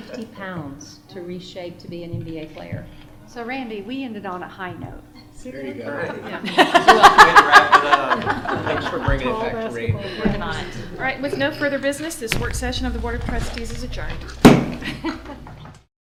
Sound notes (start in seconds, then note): 5.9 laughter